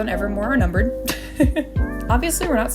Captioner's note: laughter